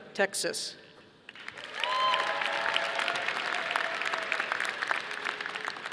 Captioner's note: audience applauding